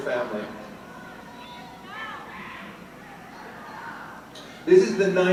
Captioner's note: audience chattering and yelling